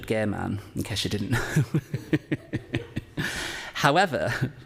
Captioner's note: laughs